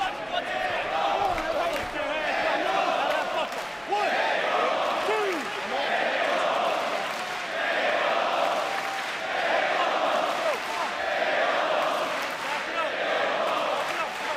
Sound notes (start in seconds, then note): 3.0 fans chanting